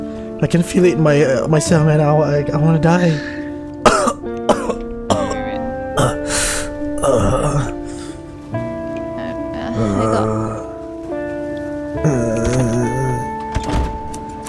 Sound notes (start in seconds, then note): 3.8 cough; 9.3 groans